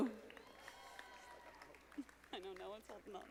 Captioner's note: audience applauding